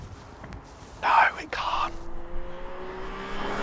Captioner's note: whispers